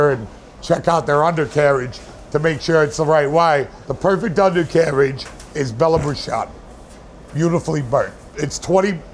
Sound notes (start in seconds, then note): 5.3 speaks Italian